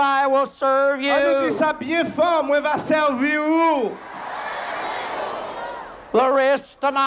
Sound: crowd repeats

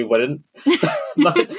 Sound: laughing; laughs

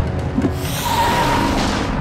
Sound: tires squealing

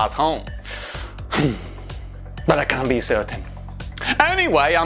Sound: big sigh

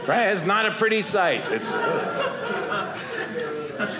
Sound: audience laughing

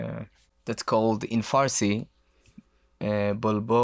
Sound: speaks in foreign language

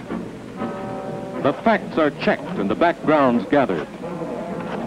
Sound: clicking and clacking of typewriters

